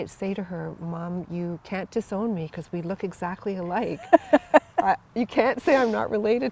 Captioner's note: laugher